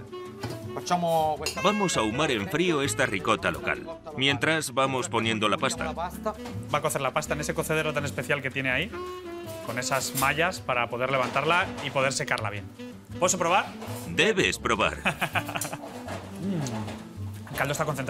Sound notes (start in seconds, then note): 15.0 laughs